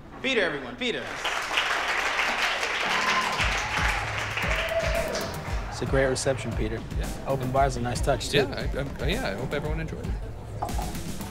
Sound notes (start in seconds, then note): 1.0 audience applauding; 3.4 upbeat music